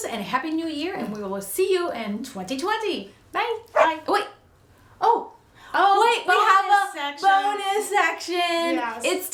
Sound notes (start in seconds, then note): 3.7 dog barks